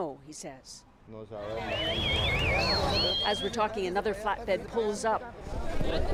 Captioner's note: speaking foreign language